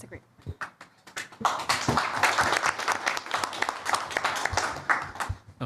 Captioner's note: applause